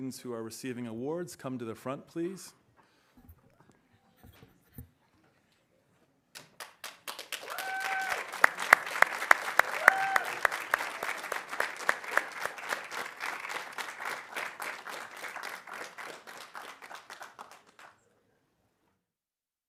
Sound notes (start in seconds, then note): 7.2 audience cheering; 7.7 audience applauding